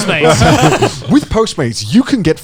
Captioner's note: laughing